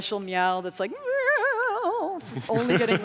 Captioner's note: imitates cat whining; laughing